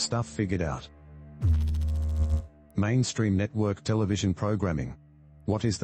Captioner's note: electrical noise